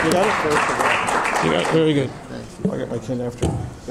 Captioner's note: applause ends